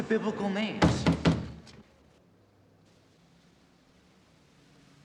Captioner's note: loud knocking